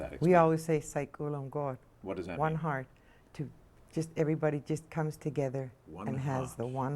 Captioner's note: speaking Native language